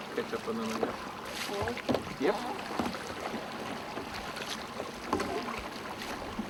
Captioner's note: splashing